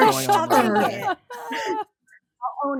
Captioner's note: laughing